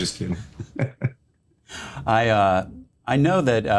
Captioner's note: laughter